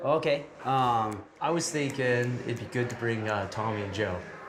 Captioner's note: none